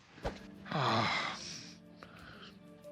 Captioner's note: sighs